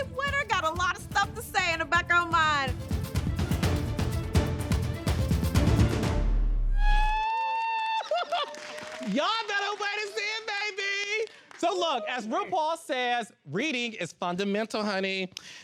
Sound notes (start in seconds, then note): 7.6 laughs maniacally